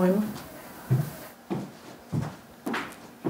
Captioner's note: steps